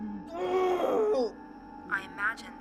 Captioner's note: Kenny screams